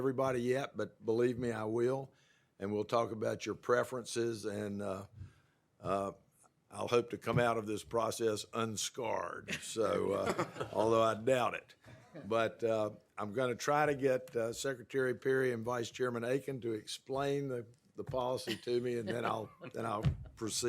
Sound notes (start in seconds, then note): 9.4 laughter